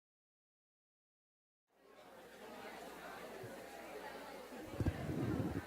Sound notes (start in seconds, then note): 1.7 crowd chatter